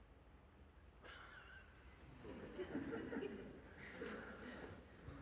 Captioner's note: Lachen